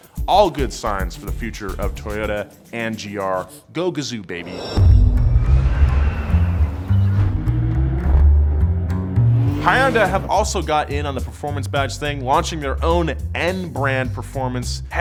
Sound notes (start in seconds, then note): 4.7 funky music; 7.4 engine roars